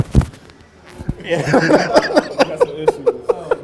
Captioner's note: laughs